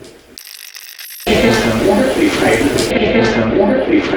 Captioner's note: radio scratching; radio voices